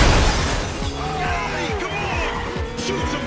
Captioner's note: loud crash